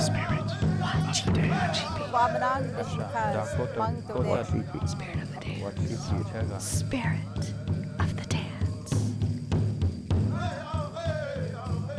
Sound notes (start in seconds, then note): 2.7 woman speaking foreign language; 8.9 drum music